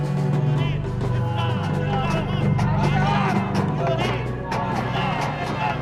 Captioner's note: all speaking foreign language